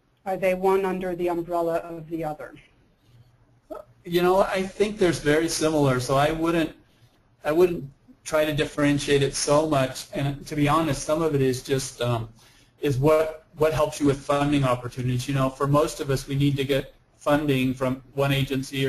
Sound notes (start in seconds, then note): 3.8 voiceover